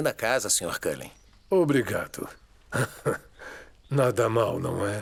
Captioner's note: laughter